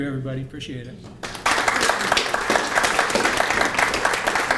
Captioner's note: applause